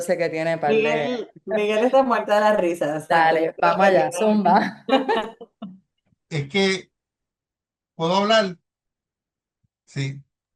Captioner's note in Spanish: risas